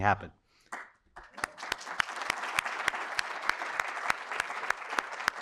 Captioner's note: audience applauding